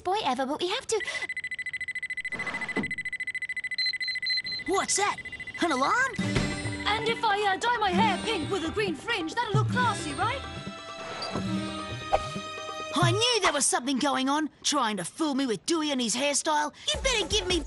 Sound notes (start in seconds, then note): 0.8 lie detector beeps; 5.0 beeping continues